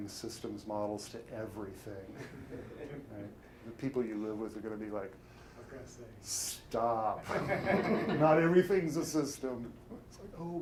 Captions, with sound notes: systems models to everything. The people you live with are gonna be like, stop! (all laughing) Not everything's a system!